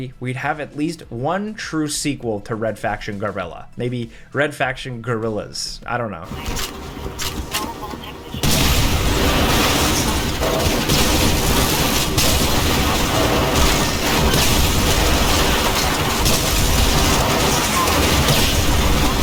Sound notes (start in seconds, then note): 8.3 explosions blasting